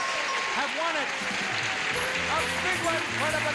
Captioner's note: audience applauding